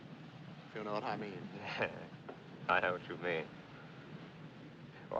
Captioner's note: Risos